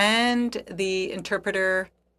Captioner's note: speaking French